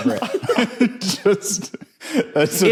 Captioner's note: giggles